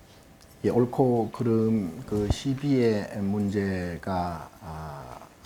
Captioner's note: speaking Korean